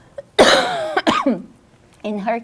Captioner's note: coughs